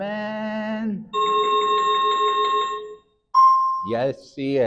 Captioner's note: chiming sound effect